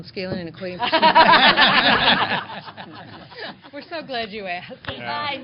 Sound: laughter

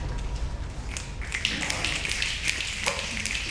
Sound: snapping

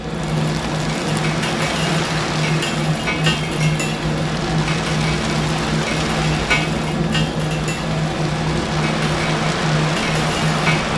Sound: cavitation Noise

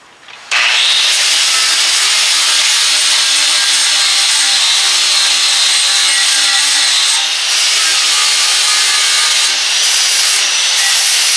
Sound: grinding

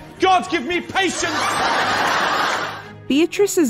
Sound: laughter

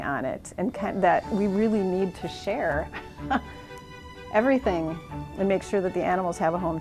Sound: laughs

